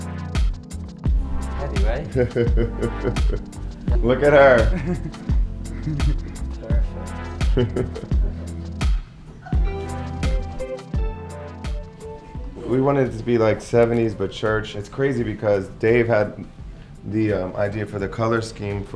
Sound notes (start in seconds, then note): 2.0 laughs; 5.1 chuckles